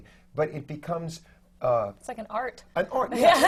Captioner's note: laughs